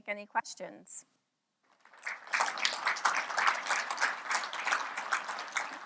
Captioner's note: applause